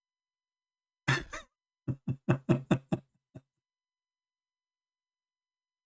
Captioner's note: Ketawa